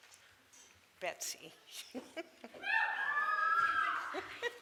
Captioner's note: crowd cheers